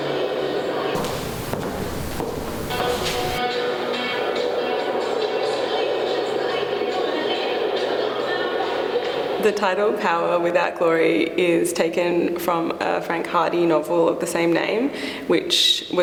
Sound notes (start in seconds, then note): 0.0 music from an artwork plays in the background; 0.9 footsteps; 2.9 music from an artwork plays in the background